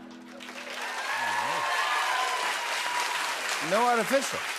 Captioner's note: cheers and applause